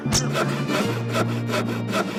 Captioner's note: saw sawing